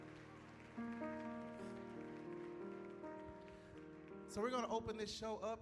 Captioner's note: applause